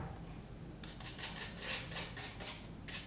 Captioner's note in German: Schabende Pinselgeräusche